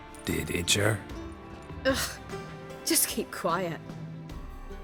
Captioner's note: chuckling